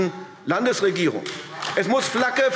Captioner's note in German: Beifall AfD